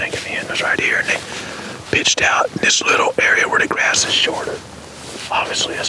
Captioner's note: whispering